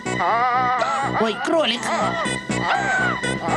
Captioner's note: yelling